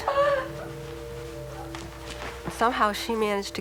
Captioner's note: crying